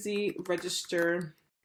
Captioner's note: keyboard clicks